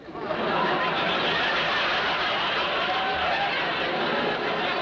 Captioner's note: audience laughing